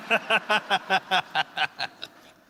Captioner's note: laughter